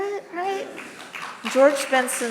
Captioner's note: audience clapping